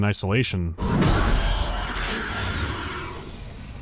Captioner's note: Xenomorph's screechy hissing